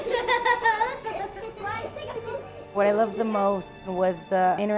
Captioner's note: kids laughing